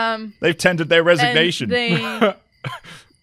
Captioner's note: laughs